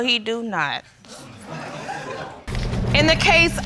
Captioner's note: audience laughing